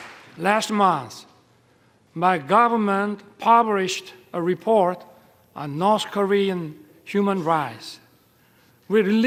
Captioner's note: applause